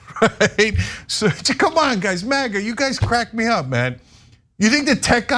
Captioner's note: laugh